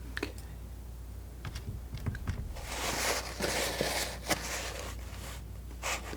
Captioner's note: tapping on table